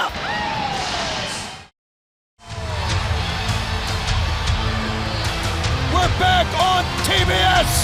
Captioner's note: crowd cheering